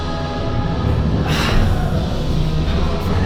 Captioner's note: sighs